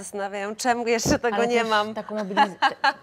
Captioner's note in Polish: śmiech